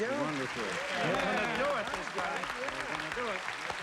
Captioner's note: cheering together